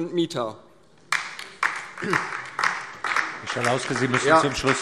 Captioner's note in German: Beifall DIE LINKE